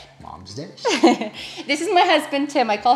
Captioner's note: laughs